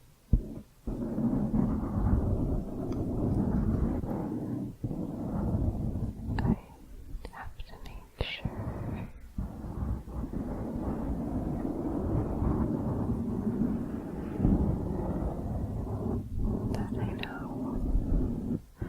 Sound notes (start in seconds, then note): 0.2 dense mic scratching; 9.1 dense mic scratching